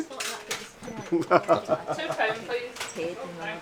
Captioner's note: laughs; murmurs